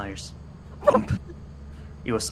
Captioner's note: whump!